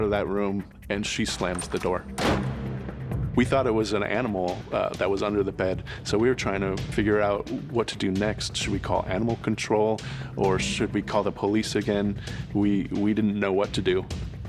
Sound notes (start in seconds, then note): 1.3 door slams